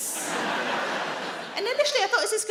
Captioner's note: audience laughing